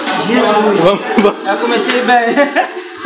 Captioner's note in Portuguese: risos